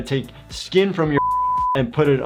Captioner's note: beep